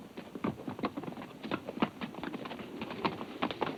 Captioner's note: hooves clomp